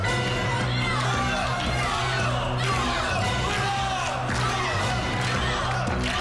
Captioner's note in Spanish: Palmadas